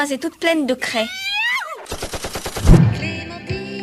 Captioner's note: warlike shout and machine gun noises